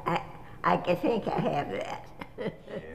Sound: laughter

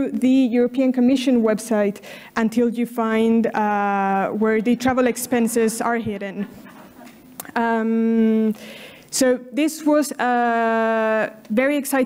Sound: laughter from audience

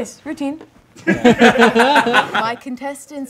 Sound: group laughing; laughing

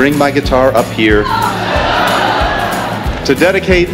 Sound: laughter

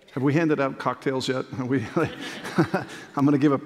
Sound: laughter

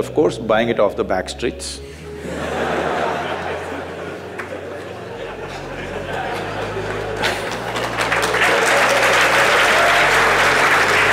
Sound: laughter/Applause

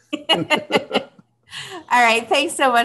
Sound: both laugh

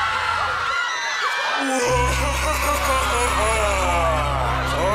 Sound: screaming; evil laughter

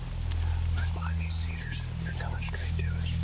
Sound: whispering

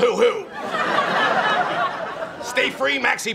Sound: audience laughs

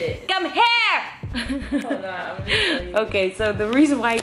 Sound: laughing

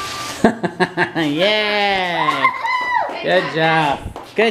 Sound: laughs

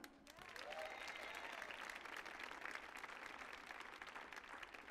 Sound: audience applauding

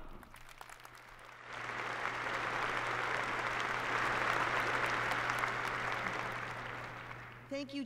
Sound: applause

